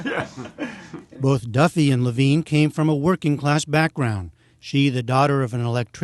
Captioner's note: laughter